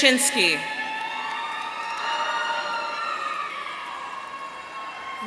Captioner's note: audience cheering